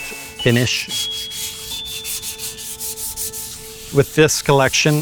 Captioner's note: tranquil music; board scrubbing